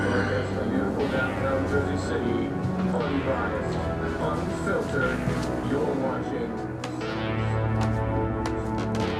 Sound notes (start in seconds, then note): 0.0 gentle suspenseful music; 0.8 news anchor chattering